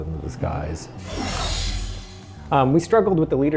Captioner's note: woosh